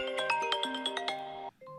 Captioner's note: sound of iPhone ringtone